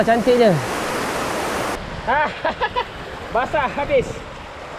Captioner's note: laughs